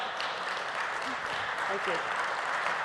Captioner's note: applause